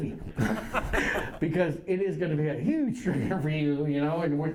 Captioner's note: laughter